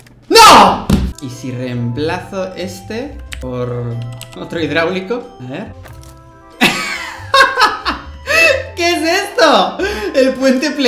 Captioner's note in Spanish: Risas